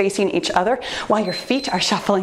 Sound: timer beeps

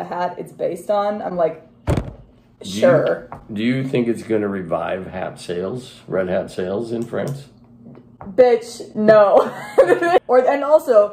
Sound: laughing

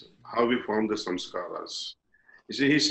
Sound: impressions

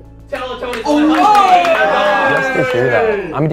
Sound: cheers

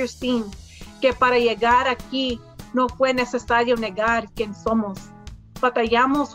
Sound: speaks in foreign language

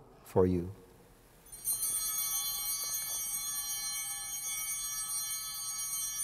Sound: bell ringing

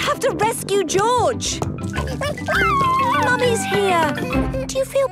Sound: George crying

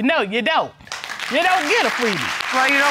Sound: audience clapping

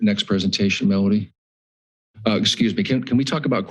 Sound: pause

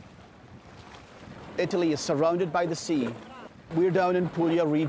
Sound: waves lapping on rocks; with Scottish accent

